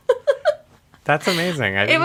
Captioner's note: laughs